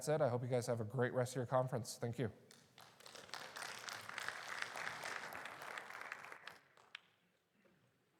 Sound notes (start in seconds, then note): 2.6 audience applauds